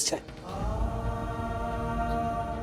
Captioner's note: poignant vocalisation